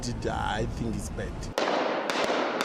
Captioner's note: gunfire